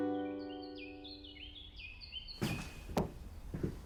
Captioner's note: birds singing